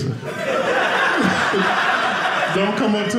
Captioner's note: audience laughing